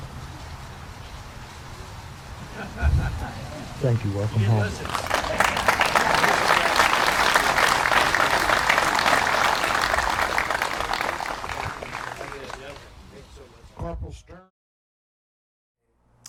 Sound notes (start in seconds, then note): 4.4 applause